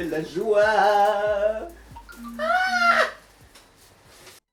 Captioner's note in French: Notification GrindR